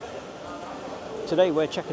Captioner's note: crowd murmuring